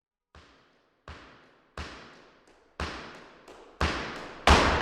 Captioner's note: feet stomping